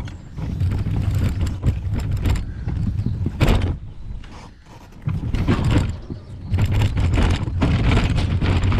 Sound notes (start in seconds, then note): 3.3 bangs into gate; 5.8 wheels scraping